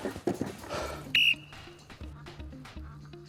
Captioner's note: blows whistle